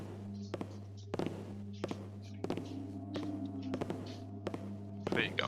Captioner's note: guard's footsteps grow louder